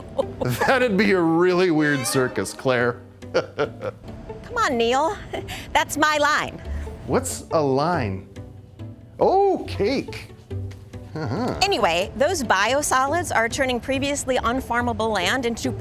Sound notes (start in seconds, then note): 0.0 chuckling; 3.3 chuckling